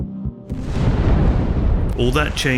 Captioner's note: explosion booming